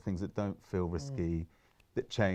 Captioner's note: murmurs in agreement